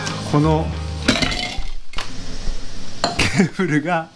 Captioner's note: sound a cup falling